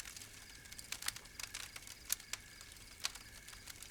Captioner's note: none